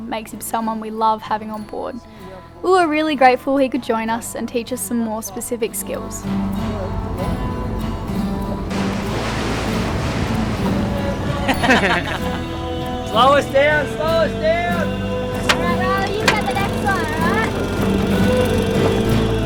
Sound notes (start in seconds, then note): 11.6 laughs